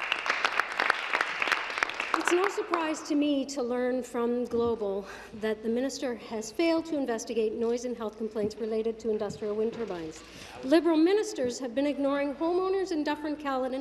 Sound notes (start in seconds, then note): 3.8 applause